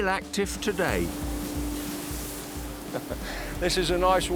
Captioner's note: steam hisses